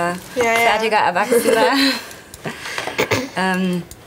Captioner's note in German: Sie lachen